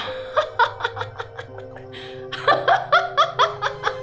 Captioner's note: manic laughing